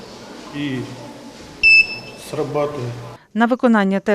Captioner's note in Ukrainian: пищить